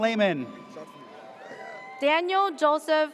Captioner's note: audience cheers